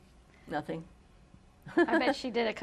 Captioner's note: laughs